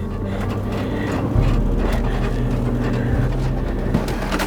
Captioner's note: car creaking